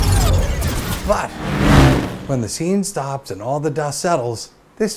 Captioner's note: several spaceships fly; motorcycle drives